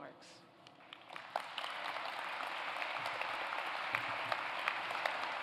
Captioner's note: applause